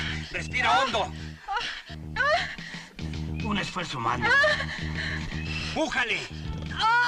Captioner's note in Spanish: Quejidos; Grito